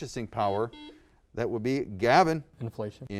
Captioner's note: buzzer